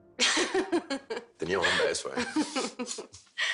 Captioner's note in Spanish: Risas